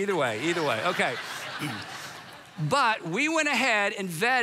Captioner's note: congregation laughs